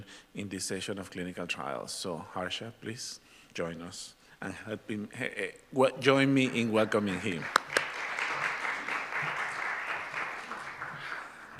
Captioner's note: applause